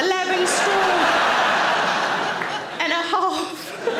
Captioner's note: audience laughter